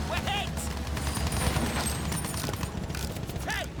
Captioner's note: gun fires